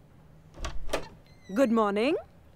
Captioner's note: Door opens